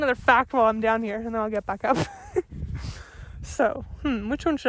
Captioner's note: laughs